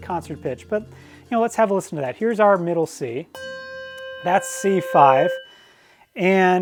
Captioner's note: bell rings